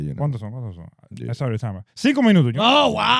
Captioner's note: speaking In Foreign Language